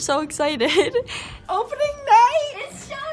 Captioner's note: chuckles